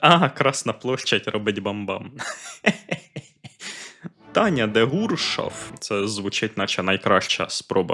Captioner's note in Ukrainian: сміх